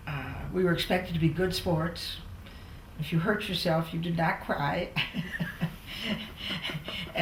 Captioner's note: laughs